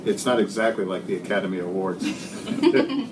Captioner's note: laughter